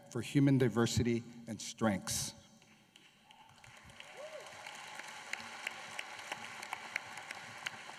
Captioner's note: applause